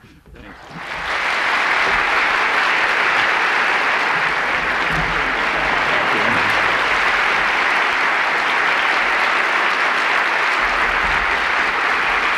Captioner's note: applause